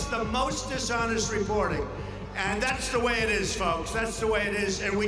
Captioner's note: crowd cheering